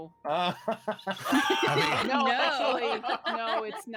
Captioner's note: group laughing